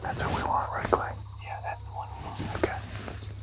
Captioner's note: whispering